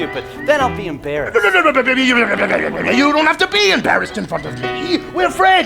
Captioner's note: stammering